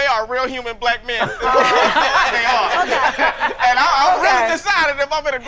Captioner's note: all laughing